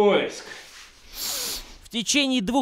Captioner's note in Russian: Глубокий вдох